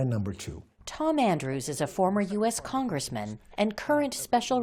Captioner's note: voice-over